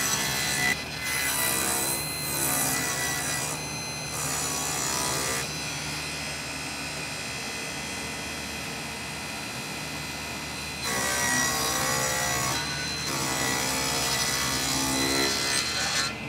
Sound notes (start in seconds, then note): 11.4 saw buzzing